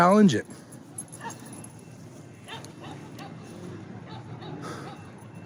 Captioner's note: annoying dog barking